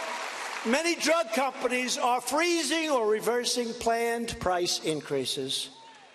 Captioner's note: cheers and applause